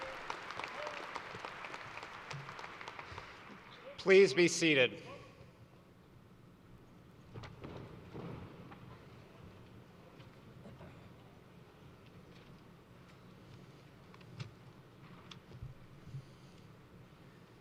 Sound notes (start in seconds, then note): 0.0 applause